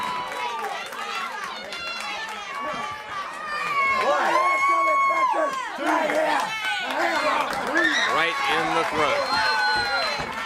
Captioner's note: crowd cheering